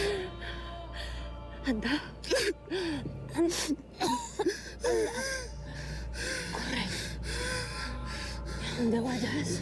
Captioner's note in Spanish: llanto de pepito